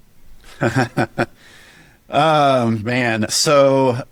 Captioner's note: chuckles